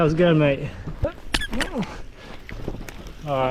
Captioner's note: Ducky Squeaks